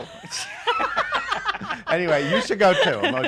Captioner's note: laugh